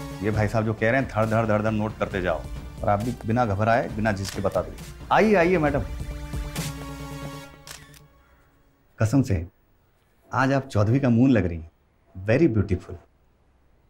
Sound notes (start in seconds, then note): 7.6 camera clicks